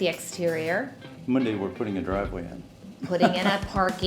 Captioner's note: chuckling